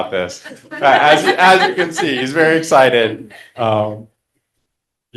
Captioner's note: laughter